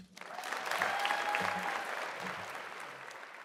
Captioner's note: applause